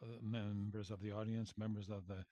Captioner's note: speaking French